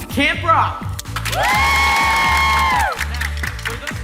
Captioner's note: campers cheering